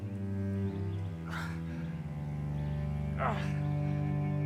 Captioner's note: Arawn breathing heavily; soft dramatic music continues